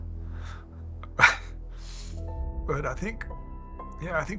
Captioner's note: laughing